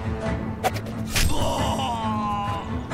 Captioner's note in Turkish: Bıçak sesi